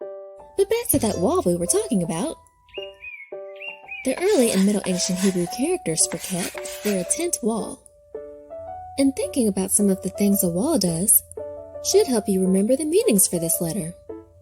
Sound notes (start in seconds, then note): 1.9 stick man slamming; 2.6 birds chirping; 7.8 chalk scratching